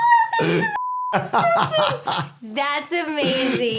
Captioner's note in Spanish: pitido